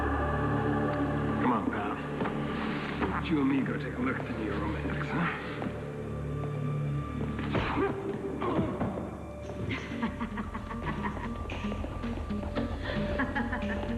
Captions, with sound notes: COME ON, PAL. LET'S LOOK AT THE NEW ROMANTICS, HUH? ( evil laughter )